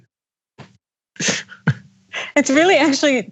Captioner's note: laugh